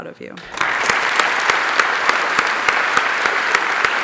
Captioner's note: applause